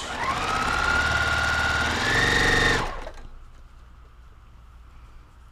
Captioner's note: sewing machine whirring